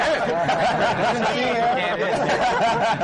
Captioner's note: laughter